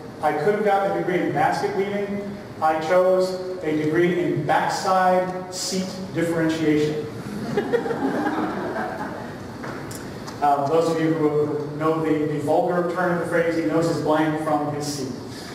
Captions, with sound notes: I could have gotten a degree in basket weaving. I chose a degree in backside seat differentiation. [LAUGHTER] Those of you who know the vulgar turn of the phrase, he knows his blank from his seat.